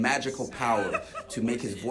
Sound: laughs

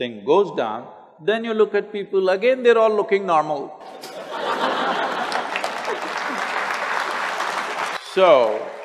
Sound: laughter/Applause

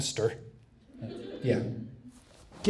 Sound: audience laughs

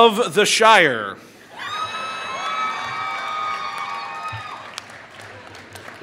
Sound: applause

